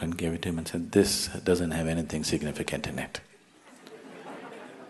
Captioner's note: laughter; 笑聲